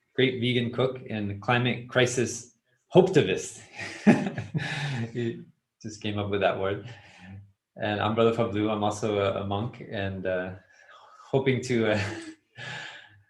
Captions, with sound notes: a great vegan cook and a climate crisis hope-tivist. [laugh] He just came up with that word. And I'm Brother Phap Luu, I'm also a monk and hoping to to